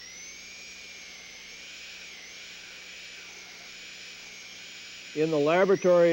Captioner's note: drilling sound